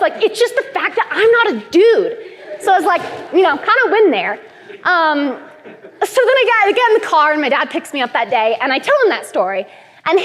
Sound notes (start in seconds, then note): 2.3 laughter; 5.4 laughter